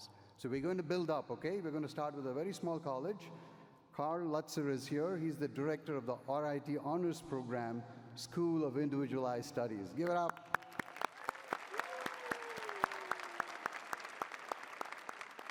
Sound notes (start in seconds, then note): 10.4 cheering